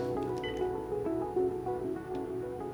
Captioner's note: beeps